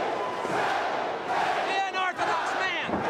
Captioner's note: crowd cheering